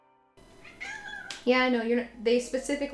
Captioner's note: Lucy meows